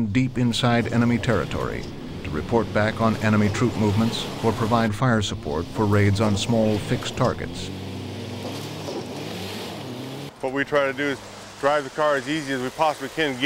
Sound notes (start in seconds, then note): 10.7 voiceover